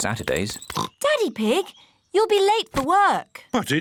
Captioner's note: oinks